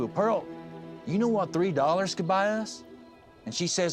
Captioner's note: none